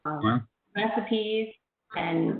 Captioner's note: voice muffled